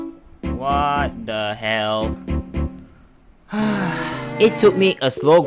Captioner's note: sigh